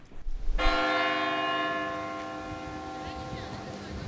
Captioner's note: bell rings